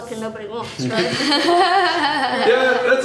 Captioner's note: laughter